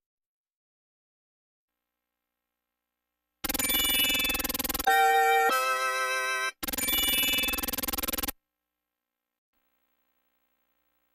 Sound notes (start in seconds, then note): 3.4 16-bit helicopter and star-twinkling sounds